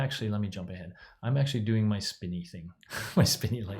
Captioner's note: laughs